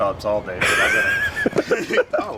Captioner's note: laughing